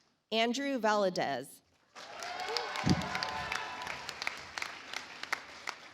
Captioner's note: audience applauds